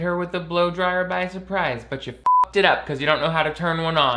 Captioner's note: beep